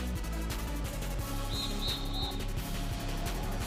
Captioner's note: whistle blowing three times